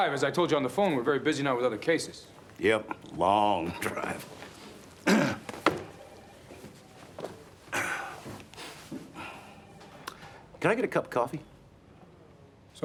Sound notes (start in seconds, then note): 5.0 clears throat